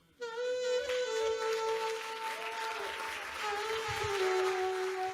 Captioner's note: audience applauding